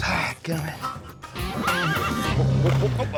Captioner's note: horse neighs